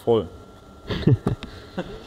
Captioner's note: chuckle